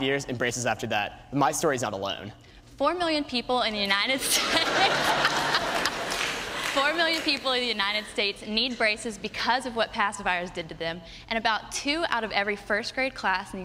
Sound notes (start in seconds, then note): 4.2 laughter